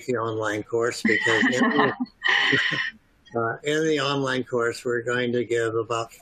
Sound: laughter

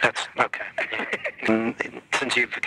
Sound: laughs

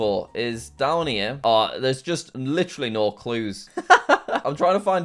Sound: laughs

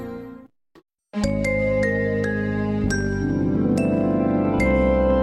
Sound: remastered chime plays

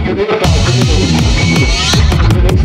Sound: wobbly screeching

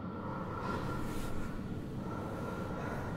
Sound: distorted breathing with echo; bed sheets rustling

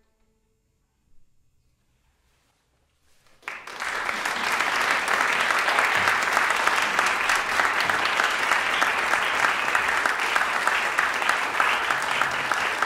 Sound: applause

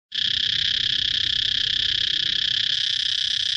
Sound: cicadas warbling

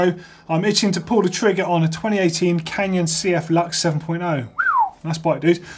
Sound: whistles

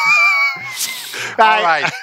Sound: both laughing

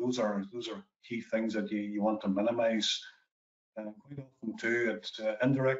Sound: audio distorts 15.02

